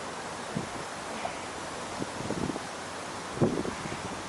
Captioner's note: grunts